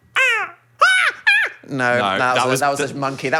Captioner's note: Dan imitates seagull; Phil imitates seagull